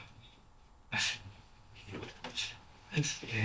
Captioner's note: none